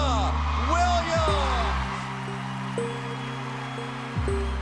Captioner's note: crowd cheering